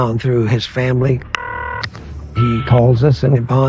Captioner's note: phone ringing